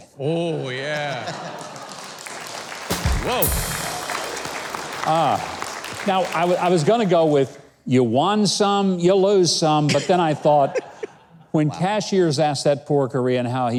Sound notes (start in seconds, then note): 1.2 audience clapping